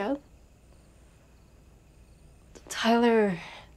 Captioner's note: crickets chirping